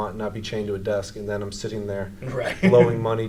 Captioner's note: laughs